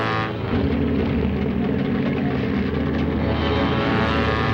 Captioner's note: engine rumbles